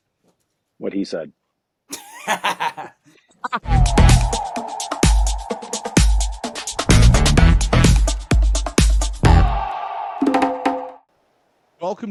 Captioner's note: laughter